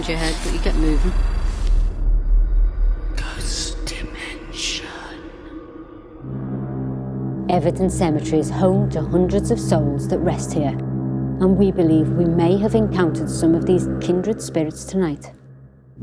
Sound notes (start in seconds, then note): 3.1 ghostly Voice